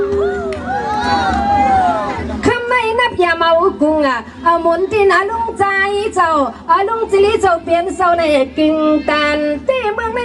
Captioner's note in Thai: ปรบมือ